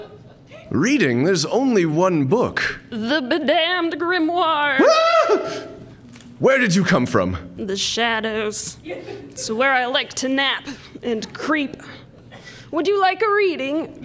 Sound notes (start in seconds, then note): 4.8 girlish scream